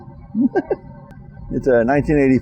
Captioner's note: laughing